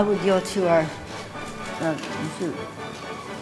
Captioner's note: stammering